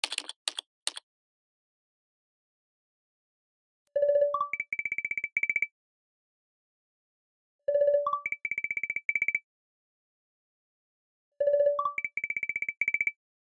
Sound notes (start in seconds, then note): 0.0 typing and video call SFX